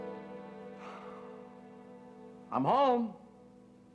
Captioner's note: sighs